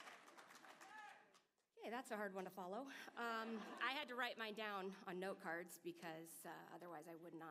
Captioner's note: applause